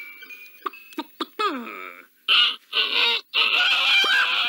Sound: clucking; duck Crowing

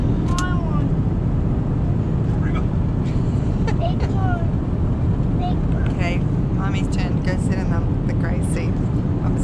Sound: both boys crying

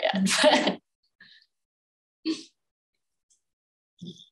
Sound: laughs

